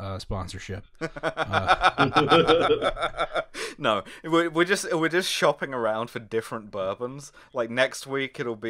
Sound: deranged laughter

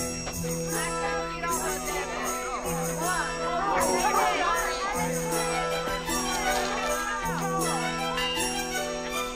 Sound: crowd chattering

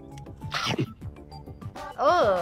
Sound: chomps

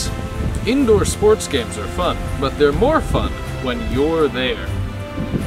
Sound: none

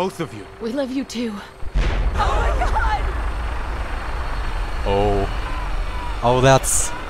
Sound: explosion

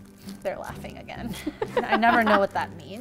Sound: laughing

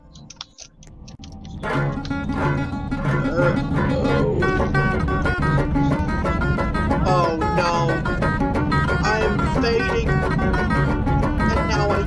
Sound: high Pitched

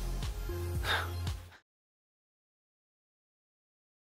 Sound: scoffs

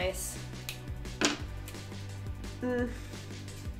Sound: taps table

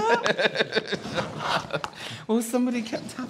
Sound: exhausted Laughter

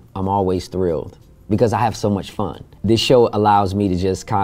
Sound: none

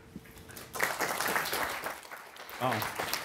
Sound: applause

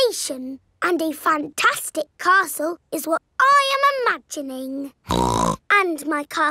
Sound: snorts

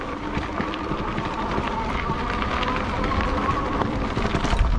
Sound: squeaks

